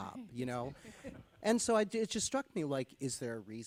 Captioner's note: chuckle